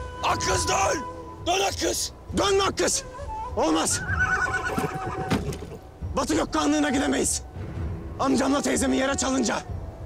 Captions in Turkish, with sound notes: Akkız döön! Dön Akkız! Dönme Akkız! Olmaz! [Kişneme Sesi] Batı Gök Kağanlığı'na gidemeyiz. Amcam ile teyzemi yere çalınca...